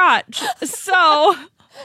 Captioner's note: laughs